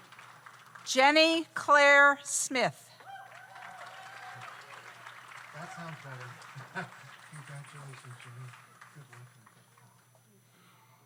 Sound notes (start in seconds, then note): 3.0 audience applauds; 3.0 audience cheers